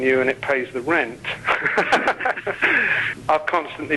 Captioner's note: both laughing